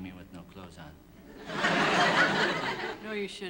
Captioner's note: laughter